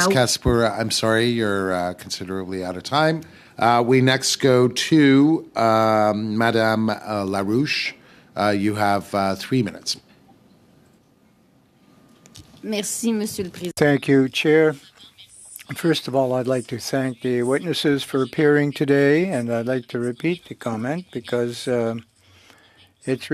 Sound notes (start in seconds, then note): 15.9 speaking French